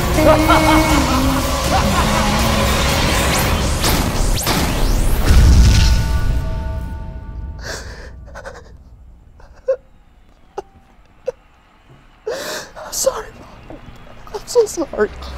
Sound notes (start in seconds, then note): 2.2 intense fighting; 8.2 Pikachu, shaking and sobs